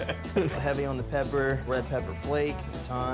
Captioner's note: laughing